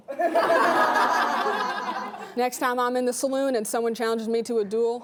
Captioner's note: laughing